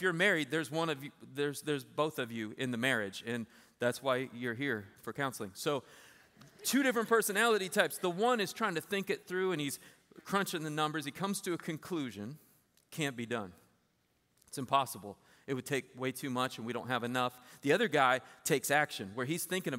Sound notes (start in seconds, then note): 5.4 laughter